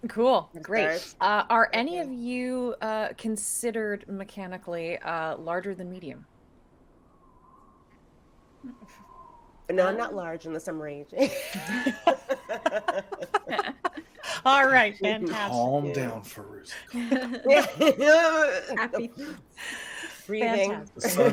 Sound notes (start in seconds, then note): 11.2 people laughing